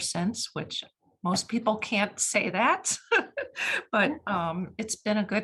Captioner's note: chuckles